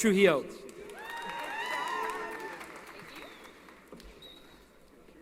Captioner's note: applause & Cheering